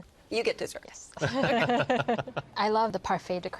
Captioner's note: all laugh